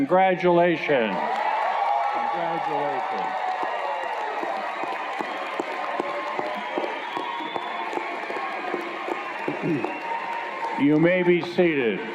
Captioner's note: cheers and Applause